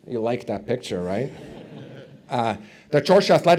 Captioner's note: audience chuckles